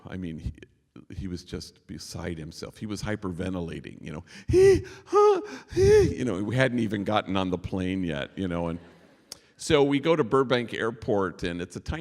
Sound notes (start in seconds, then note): 4.2 imitating panicked breathing